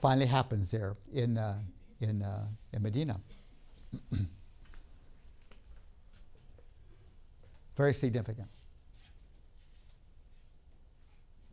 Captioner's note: clears throat